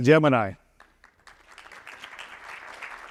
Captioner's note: applause